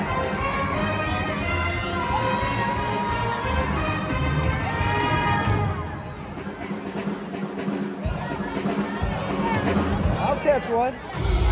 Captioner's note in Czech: Potlesk